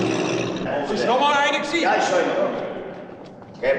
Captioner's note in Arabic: الشرطة تتحدث بلغة أجنبية